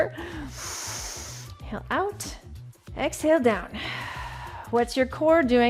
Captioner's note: inhales